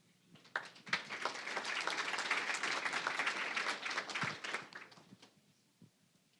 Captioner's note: applause